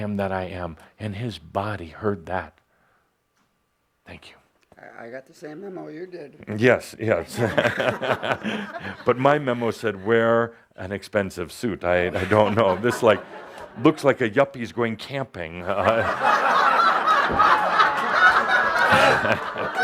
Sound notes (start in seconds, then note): 7.4 Adamus chuckles; 18.5 lots of laughter, Adamus chuckling